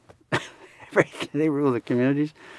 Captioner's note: laughs